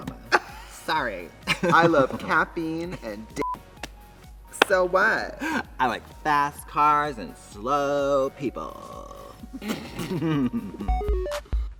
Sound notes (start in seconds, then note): 1.5 Trixie laughs; 3.4 beep; 4.0 Katya laughs; 9.4 both laugh